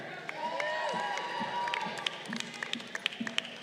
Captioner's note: crowd cheering